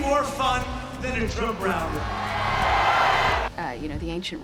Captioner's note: crowd chanting racists go home, racists go home